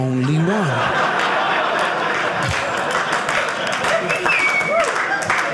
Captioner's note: audience cheering